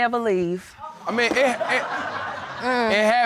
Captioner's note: audience laughing